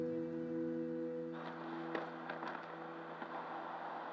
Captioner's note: flag flapping